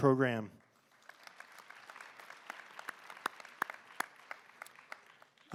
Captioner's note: applause